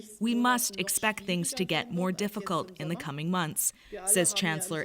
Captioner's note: speaking german